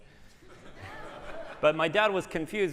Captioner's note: laughter